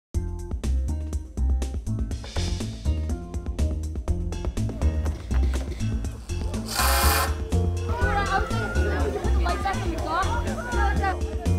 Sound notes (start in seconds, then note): 6.4 drilling